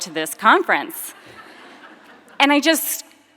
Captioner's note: audience laughing